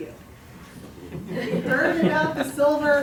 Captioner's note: laughter